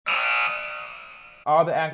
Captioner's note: buzzer